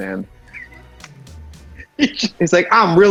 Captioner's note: laughs